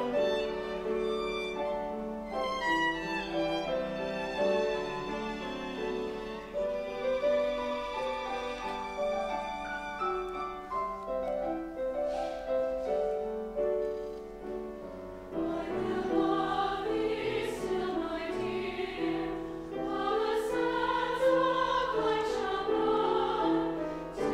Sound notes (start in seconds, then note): 0.2 bright, carefree orchestral music; 15.5 high voices